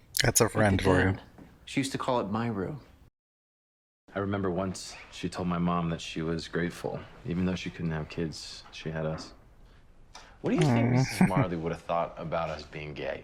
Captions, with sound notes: That's a friend for you. Aww. [Chuckling]